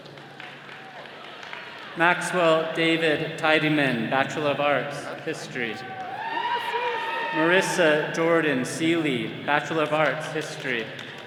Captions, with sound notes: (attendees clapping) Maxwell David Tidyman, Bachelor of Arts, History. (all cheering) Marissa Jordan Seelye, Bachelor of Arts, History.